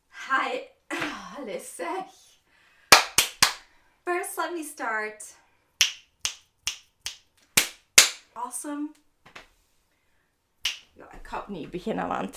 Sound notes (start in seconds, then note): 0.5 sighs; 2.7 snaps fingers; 6.8 claps; 10.6 snaps fingers